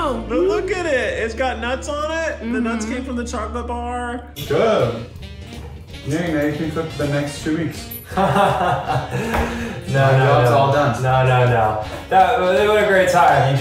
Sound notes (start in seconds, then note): 8.1 laughs